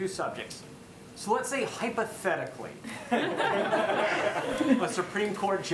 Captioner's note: laughter